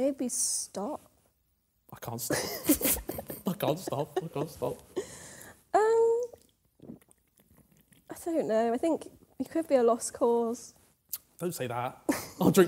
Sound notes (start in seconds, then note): 2.3 laughing; 6.3 gulping